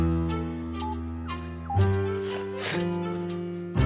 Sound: phone beeps; snorts

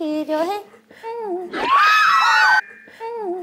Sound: shrieking♥

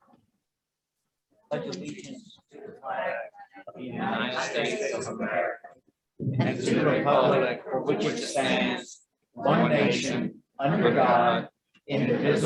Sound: The Pledge of Allegiance is recited in unison

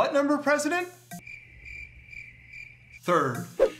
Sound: cricket chirping

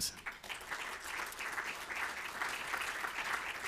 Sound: applause

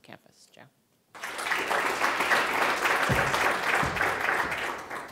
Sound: audience applauding

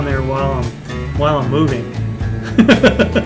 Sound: laughing

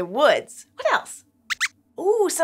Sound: squeak

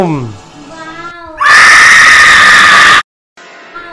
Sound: screaming

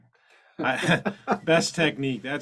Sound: laughs

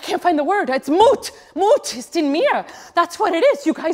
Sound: speaks in a foreign language

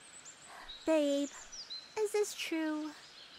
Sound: scoffs

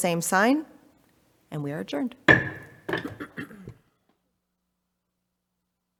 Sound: gavel strikes

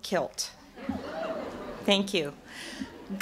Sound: audience laughter

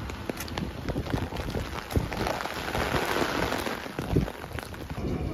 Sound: rain sound asmr

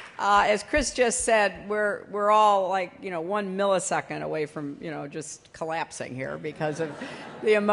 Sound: laughter

